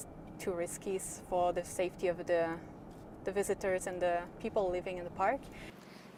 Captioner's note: none